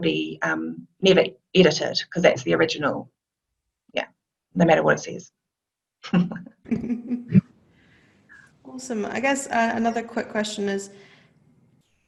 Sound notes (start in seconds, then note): 6.6 laughs